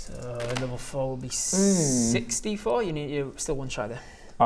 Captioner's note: disappointed noise